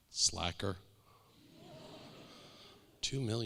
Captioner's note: audience laughing